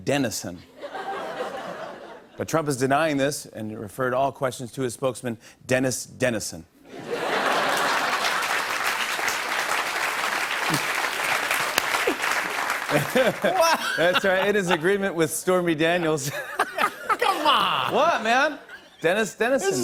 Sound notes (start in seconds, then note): 0.8 laughter; 6.9 laughter; 7.4 applause; 15.8 laughs